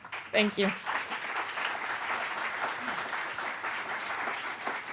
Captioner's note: audience applauding